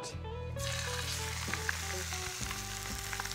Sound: sizzling

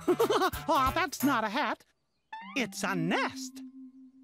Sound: chuckles

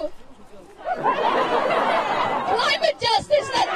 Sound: audience laughing

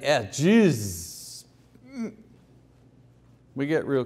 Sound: groaning

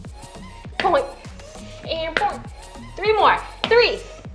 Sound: breathes heavily; hand tapping

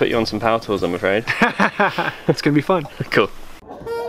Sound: laughs

